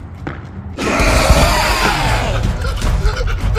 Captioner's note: footsteps pattering; explosion sound; exhales